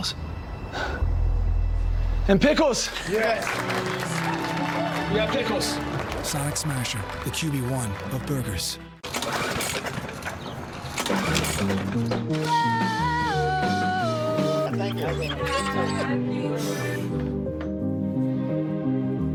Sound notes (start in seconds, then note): 10.8 sound of lawnmower; 12.4 vocalizing; 14.1 dogs squealing; 14.6 drum sounds; 16.8 singing